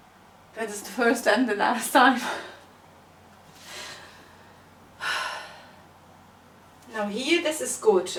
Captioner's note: sigh